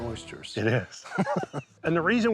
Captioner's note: laughing